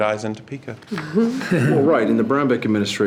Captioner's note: trustees chuckle